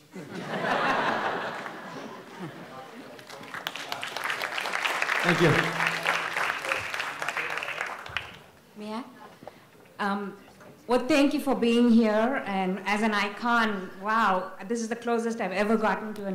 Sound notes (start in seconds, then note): 0.1 audience laughs; 2.8 audience applauds